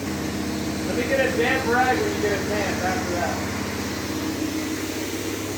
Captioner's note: man speaking in the background